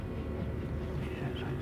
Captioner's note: man whispering